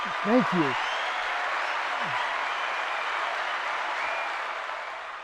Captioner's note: crowd cheering